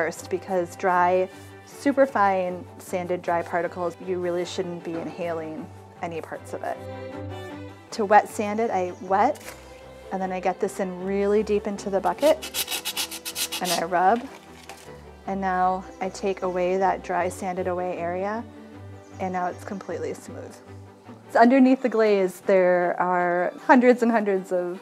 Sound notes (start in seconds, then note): 12.0 sandpaper scratching